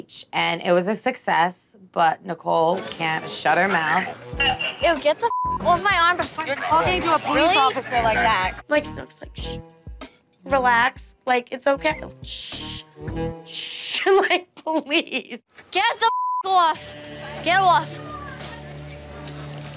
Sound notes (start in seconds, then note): 5.2 beep; 12.3 shushing; 16.0 beep